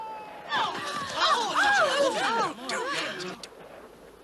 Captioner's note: all gasping and exclaiming